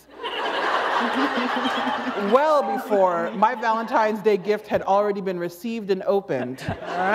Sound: laughter

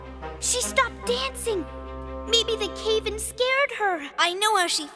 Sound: noise, voices approaching

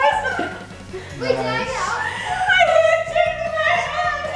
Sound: laughing

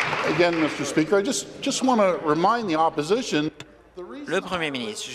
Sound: applause

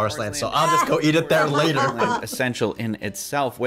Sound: laughs

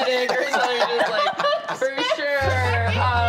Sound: all laugh

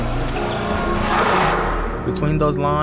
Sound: shoes squeaking

